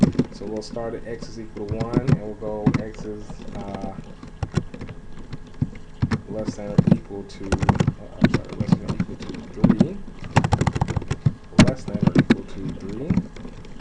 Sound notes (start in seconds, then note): 5.1 typing sounds